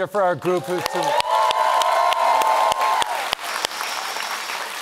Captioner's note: audience applauds